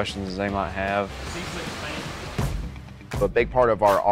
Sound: speaking faintly

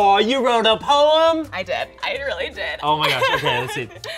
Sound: laughs

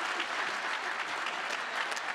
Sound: cheering

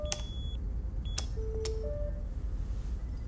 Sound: alarm stops

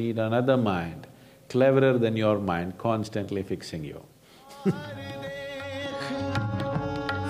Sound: laughs

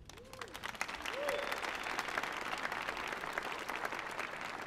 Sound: audience applauding

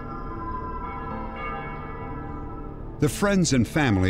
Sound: church bells ringing

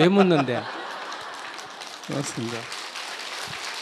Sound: laughter/Applause

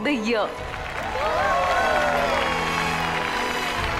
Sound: cheering & applause

